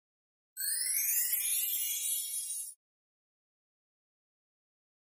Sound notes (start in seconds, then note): 0.6 chimes ring